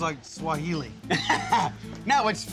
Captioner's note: laughs